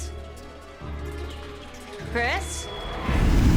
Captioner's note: ominous whispering; dramatic music